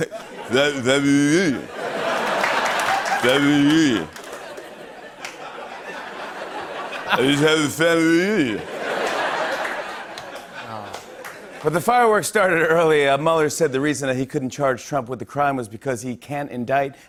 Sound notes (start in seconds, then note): 2.2 laughter and applause; 8.7 laughter; 11.4 normal voice